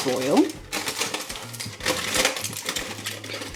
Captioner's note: metallic crumpling